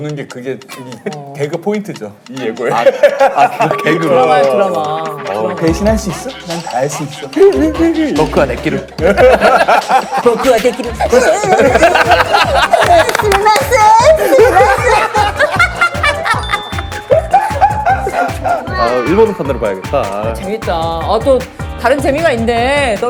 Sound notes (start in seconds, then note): 9.3 haha; 13.0 clapping in joy / Haha